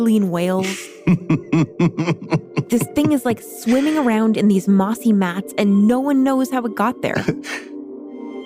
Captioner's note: laughs